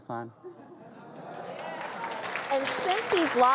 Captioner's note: audience cheers and claps